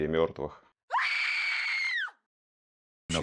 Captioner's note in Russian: женский крик